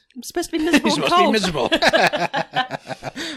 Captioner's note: laughs